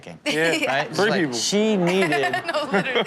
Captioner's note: Chanel laughs